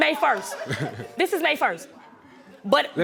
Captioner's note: chuckles